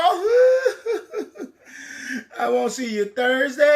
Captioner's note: sobbing